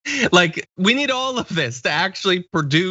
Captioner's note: laugh